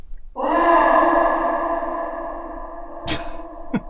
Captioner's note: loud, haunting echo